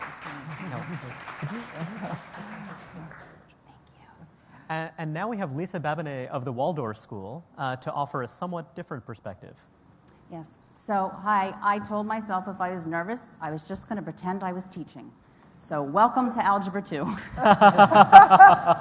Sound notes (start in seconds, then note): 1.6 applause; 17.1 laughter